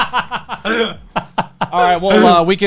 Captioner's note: laughing